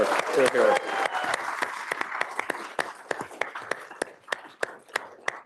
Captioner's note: applause